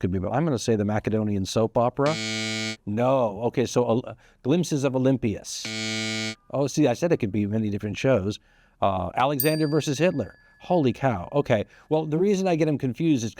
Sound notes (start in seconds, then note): 2.0 buzzer blares; 5.6 buzzer blares; 9.4 bell dings